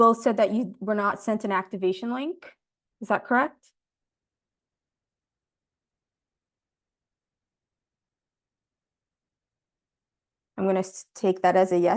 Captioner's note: silence